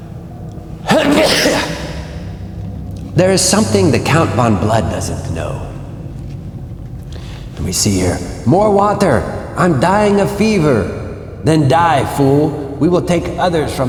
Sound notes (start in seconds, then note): 0.8 sneeze